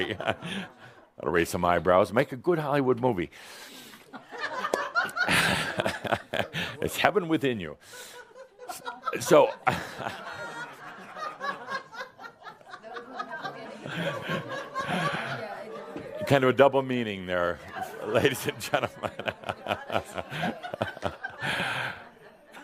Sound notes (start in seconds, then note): 4.1 some giggles; 9.9 continuing laughter; 19.7 Adamus chuckles